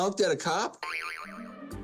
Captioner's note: boing